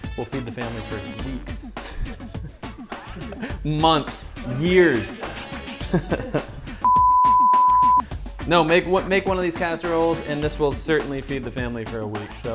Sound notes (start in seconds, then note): 1.7 laughs; 5.8 laughs; 6.8 electronic beep